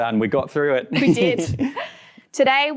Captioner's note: laughs softly